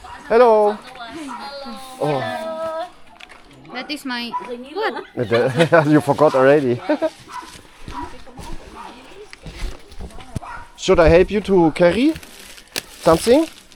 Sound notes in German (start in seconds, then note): 4.8 gelächter